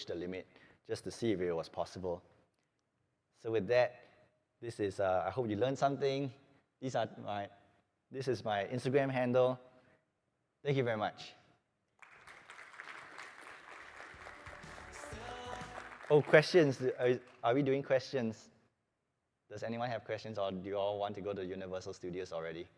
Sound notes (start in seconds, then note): 11.9 applause